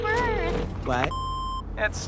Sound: beeping

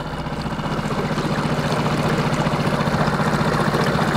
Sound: boat engine sputtering

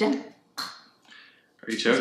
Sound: choking

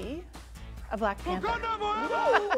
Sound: laughs

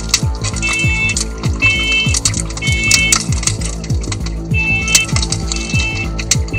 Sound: alarm Voice; fire crackling; alarm beeping

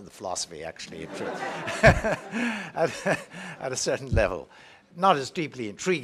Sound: laugh

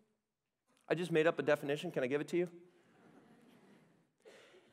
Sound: laughter

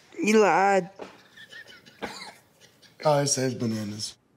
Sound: laughs

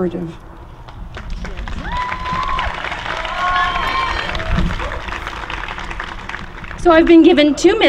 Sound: applause

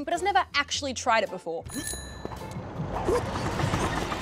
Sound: bell rings

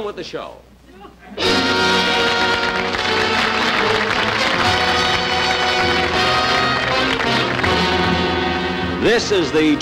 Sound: audience Applauding; dramatic Music

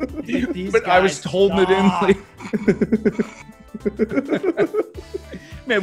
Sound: laugh

